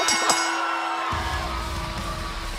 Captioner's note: bell